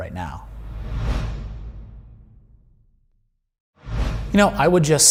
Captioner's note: air whooshing